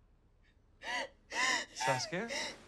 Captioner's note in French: gémissements